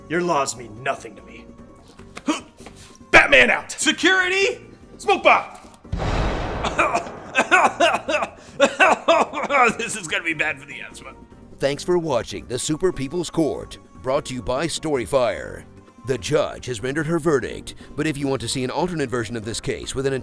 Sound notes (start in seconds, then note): 6.6 reporter coughing